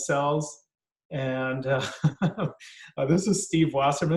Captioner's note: laughs